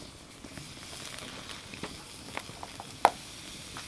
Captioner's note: sizzling